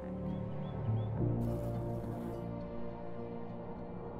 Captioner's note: bee buzzes